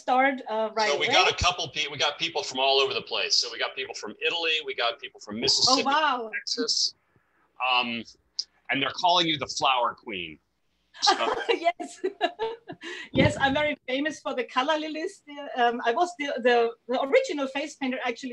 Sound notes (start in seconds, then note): 11.0 laughs